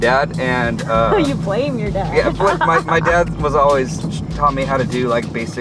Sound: laughs

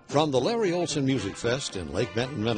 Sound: voiceover

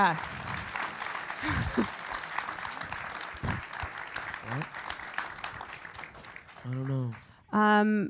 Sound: applause

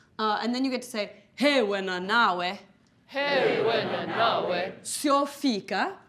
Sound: speaking in foreign language

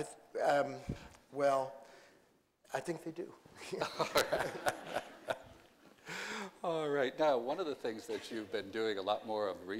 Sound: laughter

